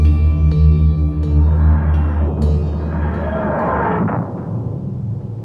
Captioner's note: TARDIS materializing